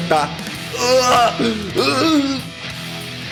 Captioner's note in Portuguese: gemidos de dor